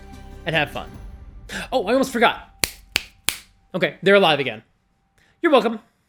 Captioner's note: snaps three times